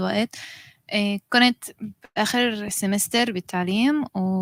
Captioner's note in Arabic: لغة أجنبية